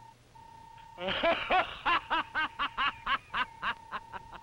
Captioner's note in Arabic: كروب يضحك